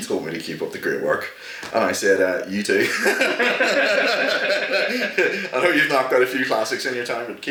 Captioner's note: laughter